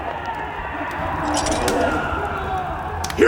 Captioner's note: distant yelling